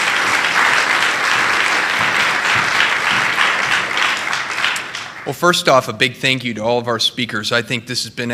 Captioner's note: appluase